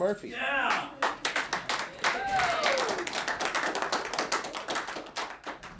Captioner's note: applause